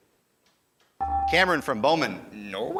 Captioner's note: ding